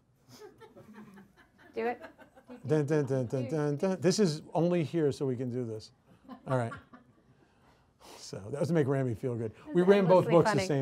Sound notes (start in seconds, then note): 0.1 audience laughs; 2.1 imitates "Conga Line" dance music